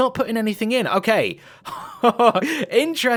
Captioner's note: laughs